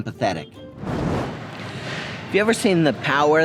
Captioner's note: transition screen whooshing